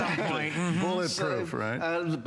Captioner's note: laughter